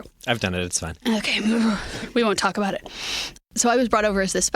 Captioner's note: groaning